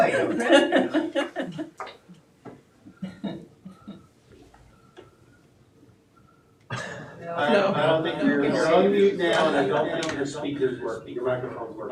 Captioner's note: audience laughing